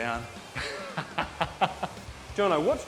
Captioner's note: laughs